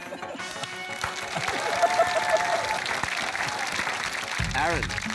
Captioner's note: cheering, applause